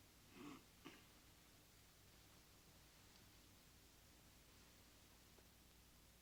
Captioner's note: Sebastian clearing throat